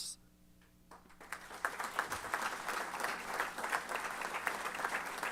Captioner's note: applause